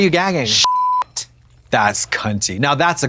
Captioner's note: beep